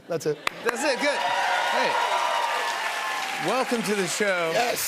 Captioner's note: cheers and applause